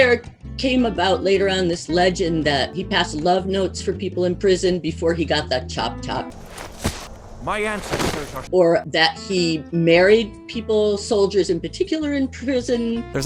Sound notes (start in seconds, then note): 6.3 body rustling; 7.6 body thumps